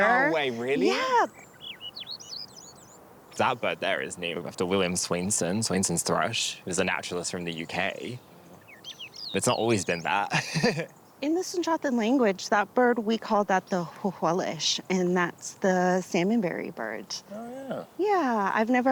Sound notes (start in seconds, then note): 2.4 birds singing; 9.4 chuckles